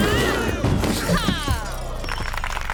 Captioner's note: crashing; applause